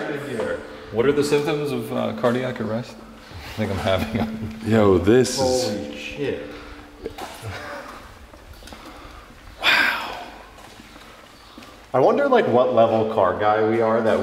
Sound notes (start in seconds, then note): 3.4 laughs